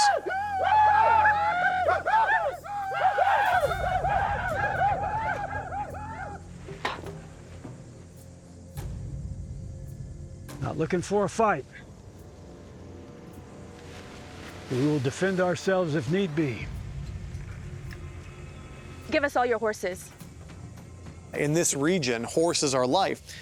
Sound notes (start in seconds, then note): 0.0 war cries; 6.6 yellow eagle spits